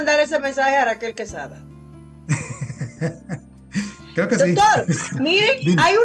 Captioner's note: laughs